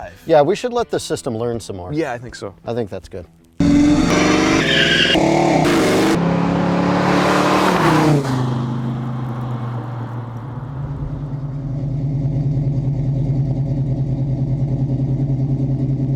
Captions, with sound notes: - Yeah we should let the system learn some more. - Yeah, I think so. - I think that's good. (engines rev) (tires squeal) (engine idling)